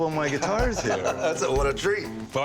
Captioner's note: chuckles